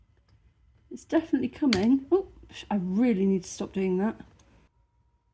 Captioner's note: click